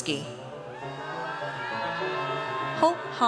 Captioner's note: audience cheers